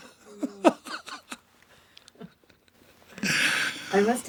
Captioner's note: John laughing